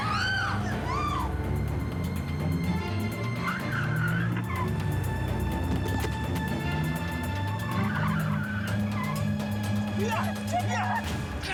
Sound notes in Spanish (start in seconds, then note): 0.0 gritos; 2.8 chirrido de gomas